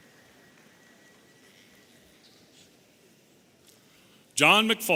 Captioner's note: audience applauding